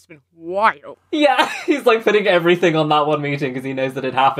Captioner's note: laughing